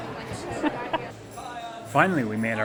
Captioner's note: chuckles